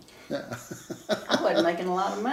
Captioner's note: laughs